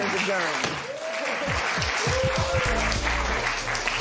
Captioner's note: applause